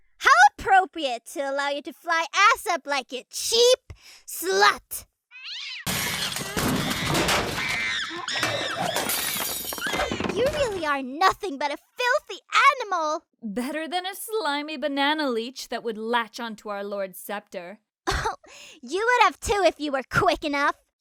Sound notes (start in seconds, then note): 5.3 cat screech; 5.4 monkey screaming and breaking stuff sounds